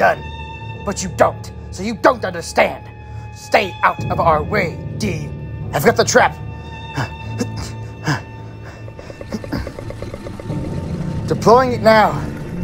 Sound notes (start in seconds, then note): 8.2 soldier grunts